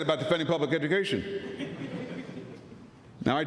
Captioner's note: laughter